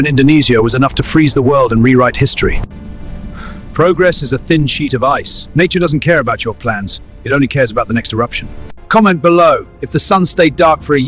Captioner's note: sarcastic Commentary